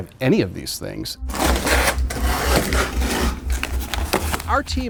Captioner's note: knifes grating